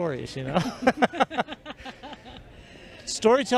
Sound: laughter

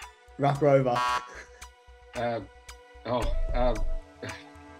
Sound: ticking noise

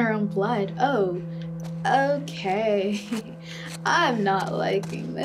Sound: laughs

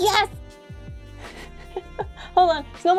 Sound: laugh

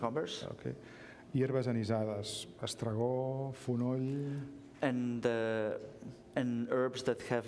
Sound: speaking catalan

